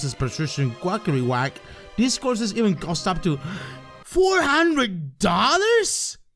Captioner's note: gasp